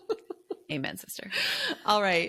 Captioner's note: laughing